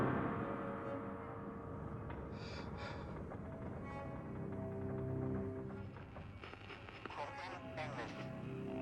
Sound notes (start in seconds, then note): 2.8 Faraday sighs; 8.6 pensive music; 8.6 radio static crackling